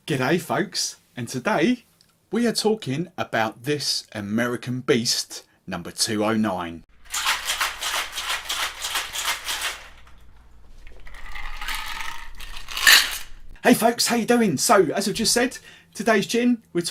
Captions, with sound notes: - Good day folks and today we are talking about this American beast, Number 209. (ice shaking and pouring) Hey folks, how ya doing? So as I've just said, today's gin,